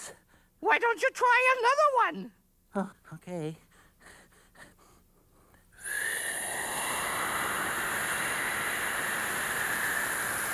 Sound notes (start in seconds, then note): 5.5 inhales deeply